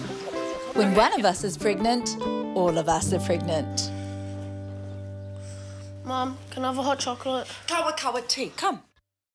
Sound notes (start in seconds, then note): 0.9 voiceover